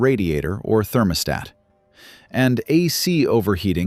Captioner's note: emphasis